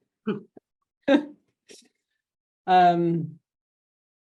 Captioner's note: chuckling